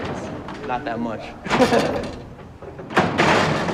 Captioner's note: laughs